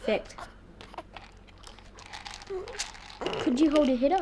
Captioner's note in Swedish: piller skramlar